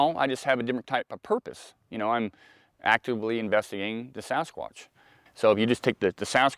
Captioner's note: none